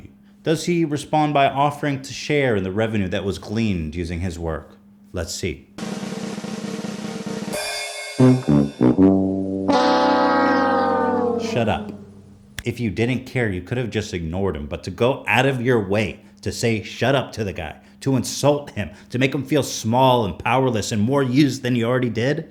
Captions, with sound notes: Does he respond by offering to share the revenue that was gleaned using his work? Let's see. *Drum Roll* (*Wah wah wa-wah. Wahhhh* sound effect plays) Shut up. If you didn't care you, could have just ignored him, but to go out of your way to say "Shut up." to the guy, to insult him, to make him feel small and powerless and more used than he already did.